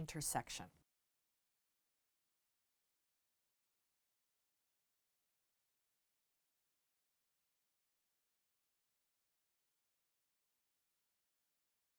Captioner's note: no Sound Present